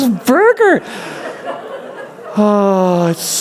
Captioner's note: laughter